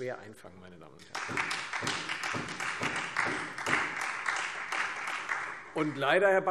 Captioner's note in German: Beifall Freie Demokraten, vereinzelt SPD und AfD